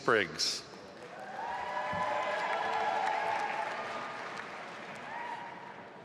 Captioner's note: audience applauding